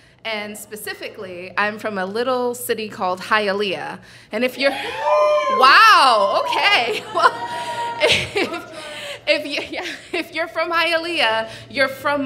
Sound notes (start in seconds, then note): 4.6 audience cheering